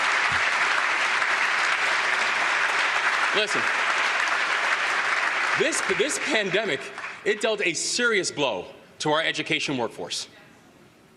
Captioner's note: applause